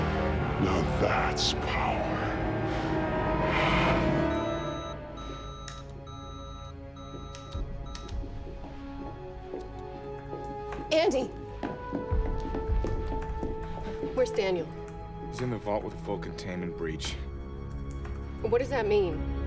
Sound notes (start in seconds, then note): 0.4 in high-pitched voice; 4.2 machine beeping